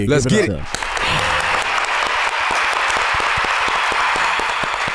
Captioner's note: crowd & trio clapping